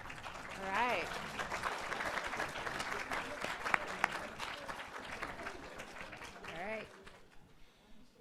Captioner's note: applause